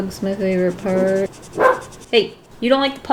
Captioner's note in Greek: Γάβγισμα